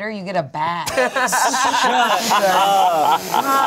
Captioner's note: everyone laughs